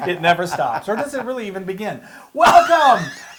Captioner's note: laugh